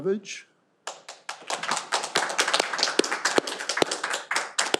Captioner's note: all applauding